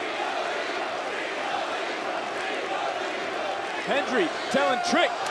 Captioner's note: crowd chants